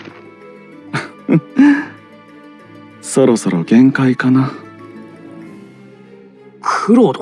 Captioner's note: laugh